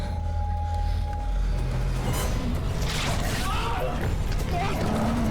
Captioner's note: both breathing hard; snarling